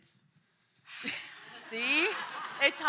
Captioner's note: laughter